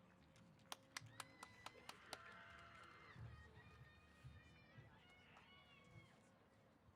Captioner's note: applause & Cheers